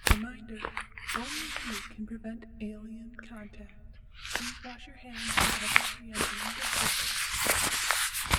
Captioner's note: voice over intercom